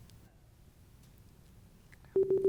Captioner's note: timer beeping